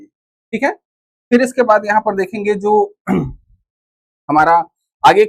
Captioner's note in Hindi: गला साफ़ करने की आवाज़